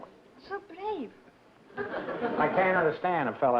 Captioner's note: laughter